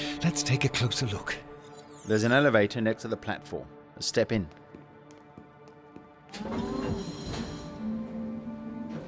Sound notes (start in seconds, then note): 4.4 footsteps; 6.3 elevator starts